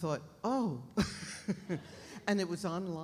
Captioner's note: Liz laughs